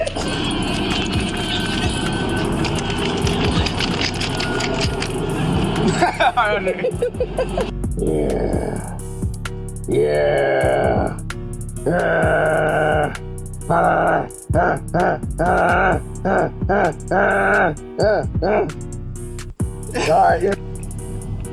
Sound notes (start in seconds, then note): 0.0 laughing; 5.7 laughing; 7.8 grunting; 19.8 laughing